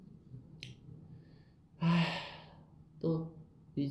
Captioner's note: sigh